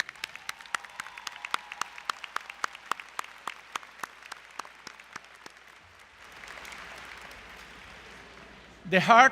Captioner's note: applause